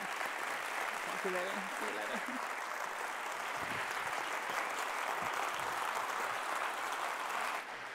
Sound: applauds

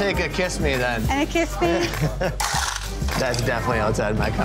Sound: ice crunching

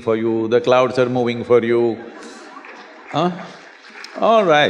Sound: laughter

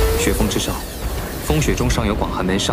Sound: is besieged by blustery wind

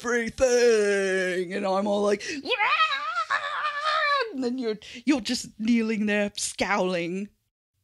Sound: imitation screams

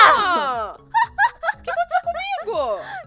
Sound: laughs

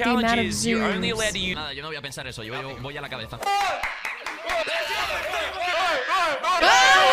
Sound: youTubers cheering in Spanish, a monkey squeaking loudly

